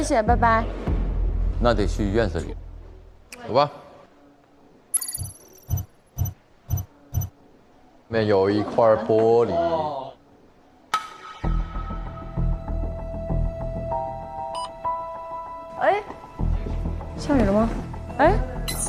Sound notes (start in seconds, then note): 14.5 beep